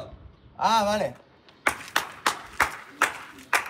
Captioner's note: claps